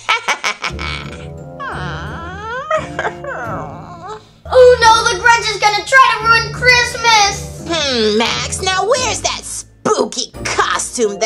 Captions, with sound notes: (sinister laugh) (whimpers) - Oh no the Grinch is gonna try to ruin Christmas! - Hm, Max, now where's that spooky costume